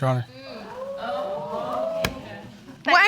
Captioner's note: audience exclaiming